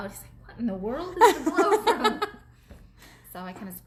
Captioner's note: laughs